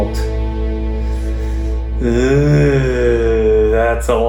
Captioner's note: groaning